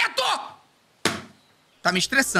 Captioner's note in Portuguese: batendo na cadeira